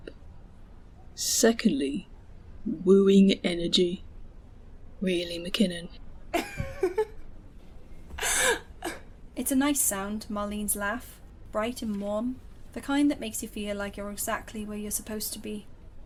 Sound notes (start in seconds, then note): 6.4 Marlene laughs